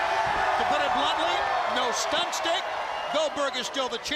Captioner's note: crowd cheering